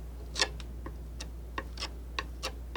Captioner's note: scratching